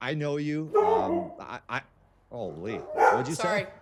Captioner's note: barking